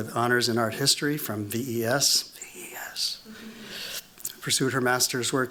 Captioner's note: whispering